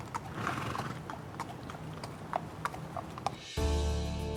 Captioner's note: horse neighs; tranquil ambient music